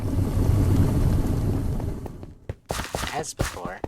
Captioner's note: the grumbling sound of idling boilers- these machines are impatient